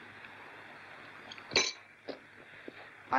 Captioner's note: spoon clanks down